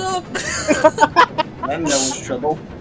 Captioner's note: laughter